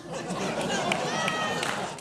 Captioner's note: audience laughing